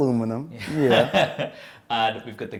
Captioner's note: laughing